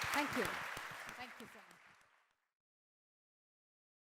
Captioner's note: applause